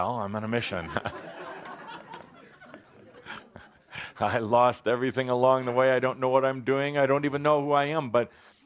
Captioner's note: laughter